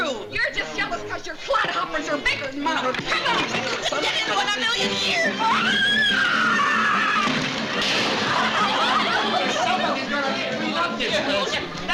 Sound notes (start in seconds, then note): 5.4 screaming